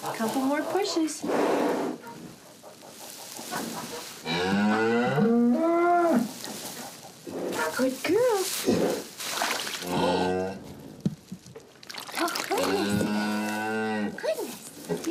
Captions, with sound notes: Couple more pushes. (extended moo) Good girl. (sloshing) Oh, goodness, goodness!